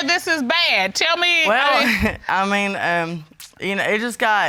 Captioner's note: chuckles